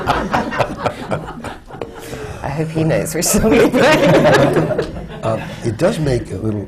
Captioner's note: laughter; laughter